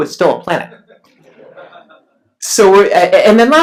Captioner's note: laughs